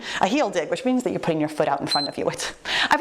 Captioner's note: timer beeps